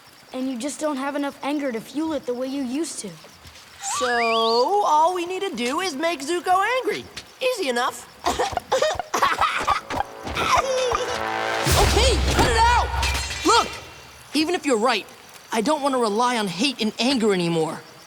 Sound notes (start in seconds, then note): 8.2 chuckling